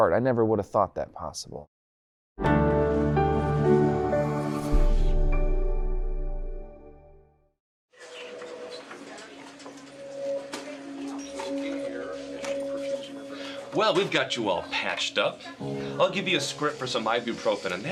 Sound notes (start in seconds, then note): 2.4 calm music; 8.2 people murmuring; 8.2 phone ringing